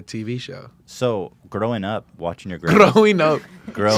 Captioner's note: in wee bit Irish accent; laughs